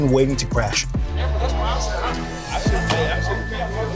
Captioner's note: chatter